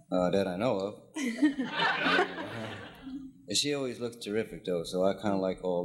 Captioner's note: audience laughing